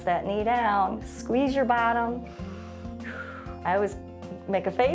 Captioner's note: inhales and exhales